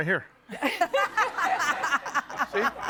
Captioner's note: audience laughing